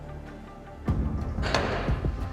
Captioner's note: snaps in place; keys clacking